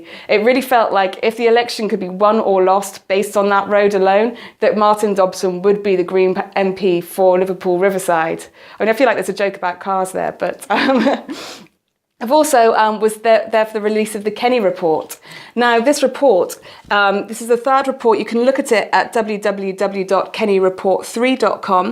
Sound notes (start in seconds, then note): 10.7 laugh